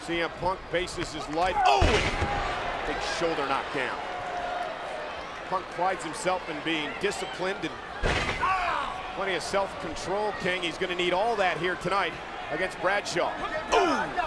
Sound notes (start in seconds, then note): 8.6 punk shouts; 13.7 men grunt